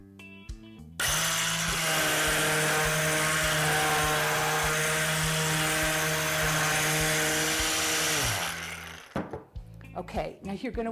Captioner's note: sanding